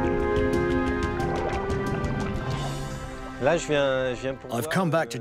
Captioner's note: water sloshing; speaking in foreign language